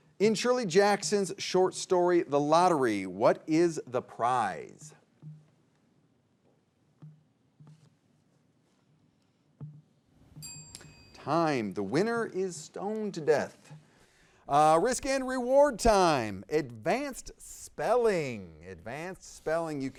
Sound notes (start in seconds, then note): 10.2 bell dings